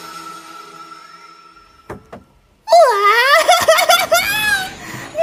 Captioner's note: Hailey squeals